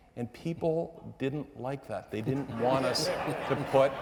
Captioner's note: audience members laughing